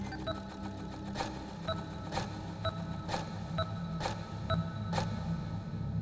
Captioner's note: machine beeping; rhythmic whirring